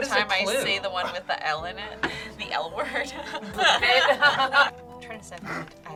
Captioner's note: laughs